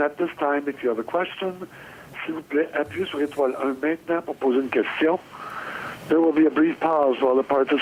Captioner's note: speaking French